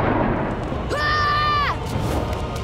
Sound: screaming

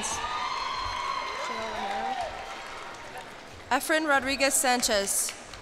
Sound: cheers and applause

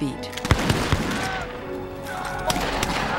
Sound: shouting

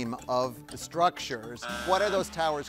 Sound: buzzer buzzing

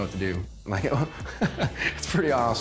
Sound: laughs

